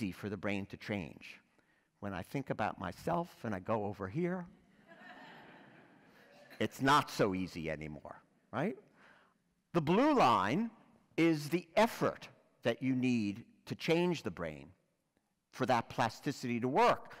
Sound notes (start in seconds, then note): 4.9 laugh